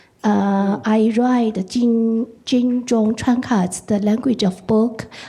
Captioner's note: speaking in foreign language